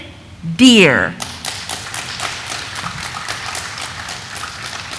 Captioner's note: audience applauding